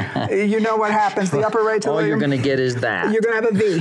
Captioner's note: laughs